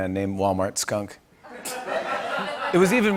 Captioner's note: laughter